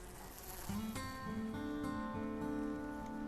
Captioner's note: fly buzzing